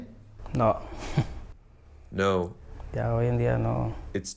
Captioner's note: through translator